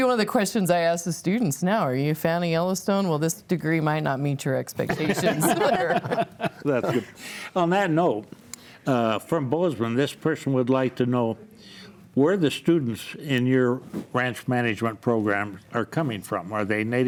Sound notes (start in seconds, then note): 6.5 laughs